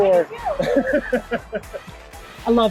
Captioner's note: laughing